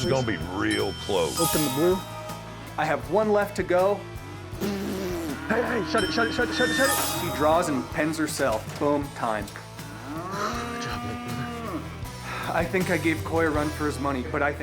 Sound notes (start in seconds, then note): 4.5 blowing